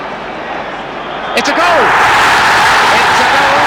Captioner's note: crowd roaring